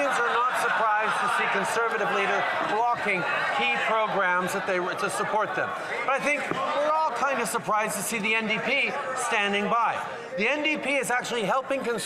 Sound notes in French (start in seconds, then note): 1.5 voix de l'interprète